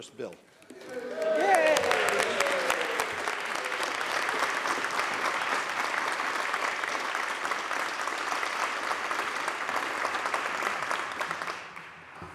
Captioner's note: applause